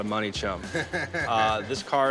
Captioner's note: Chumlee laughs